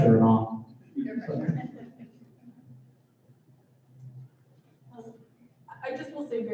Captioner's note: laughter